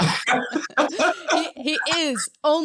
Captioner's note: both laughing